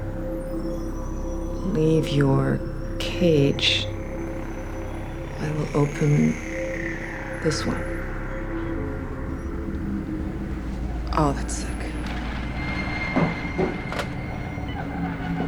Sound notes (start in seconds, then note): none